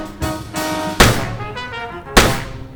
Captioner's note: gunshot